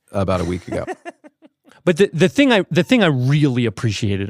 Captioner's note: laughs